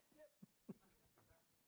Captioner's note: laughter